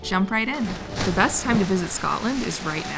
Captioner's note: splash